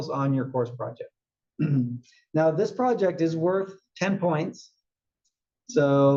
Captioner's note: cough